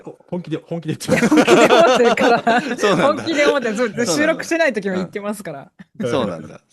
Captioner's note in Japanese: 笑い